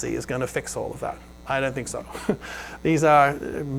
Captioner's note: chuckles